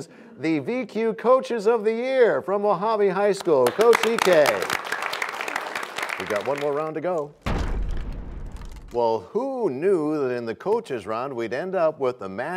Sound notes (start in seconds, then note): 5.7 applause; 7.4 crashing sound